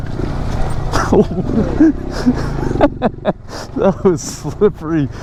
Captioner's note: laughs